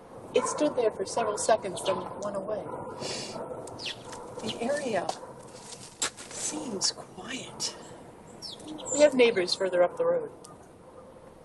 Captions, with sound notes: It stood there for several seconds, then went away. [ birds chirping ] [ dogs barking ] The area seems quiet. We have neighbors further up the road.